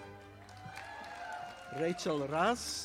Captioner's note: audience applauding